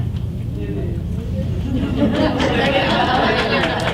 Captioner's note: audience laughs